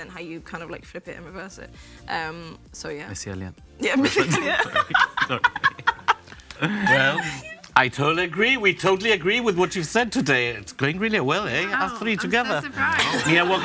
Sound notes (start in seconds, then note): 5.6 group laughs